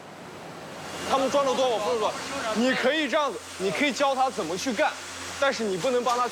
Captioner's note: speaking in foreign language